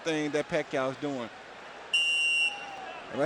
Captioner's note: whistle blows